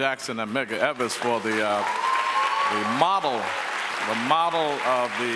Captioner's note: audience applauds